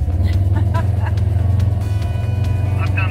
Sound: over 2-way radio; laughs

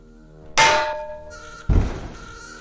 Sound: BANG. Drop

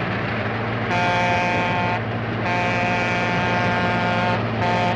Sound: train horn blowing

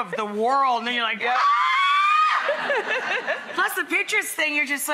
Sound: screams

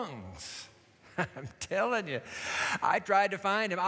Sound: chuckling

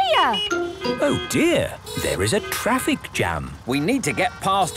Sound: honking; brakes screeching

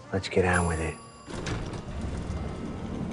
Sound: elevator bell dings

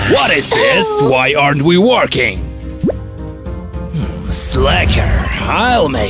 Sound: cries

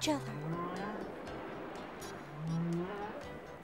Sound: whale singing

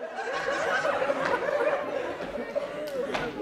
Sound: audience laughing

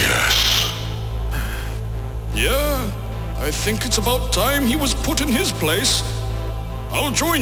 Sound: Majin sighs

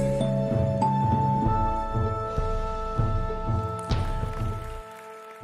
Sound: audience applauding

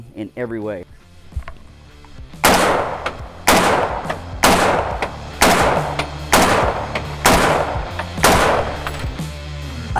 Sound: gun Shots

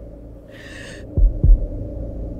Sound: Poonam Sighing

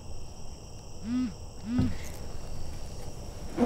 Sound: cell phone vibrates

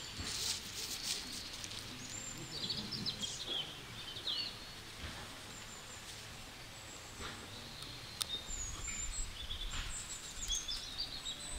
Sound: birds singing

